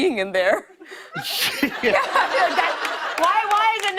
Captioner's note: laughter